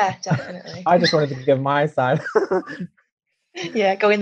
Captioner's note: laughs